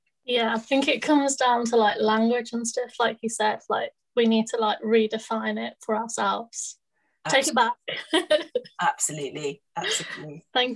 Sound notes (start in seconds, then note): 8.1 laughs